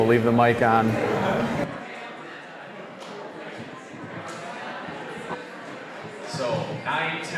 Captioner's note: general chatter